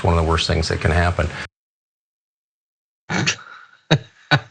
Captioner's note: laugh